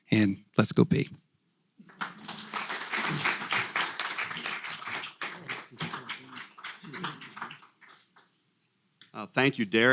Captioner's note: applause